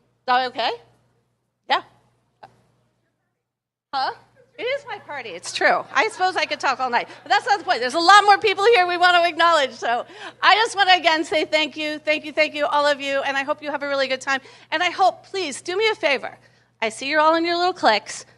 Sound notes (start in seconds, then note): 2.1 laughter